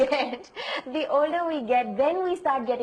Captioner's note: laughs